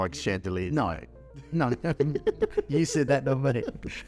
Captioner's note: laughing